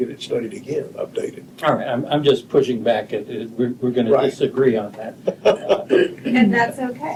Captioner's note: laughter